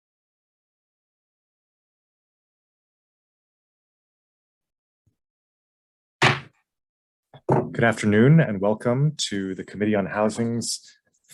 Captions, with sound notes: (gavel bangs) - Good afternoon, and welcome to the Committee on Housings,